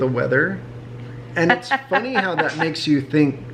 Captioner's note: mom laughs